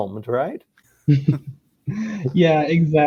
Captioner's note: group laughing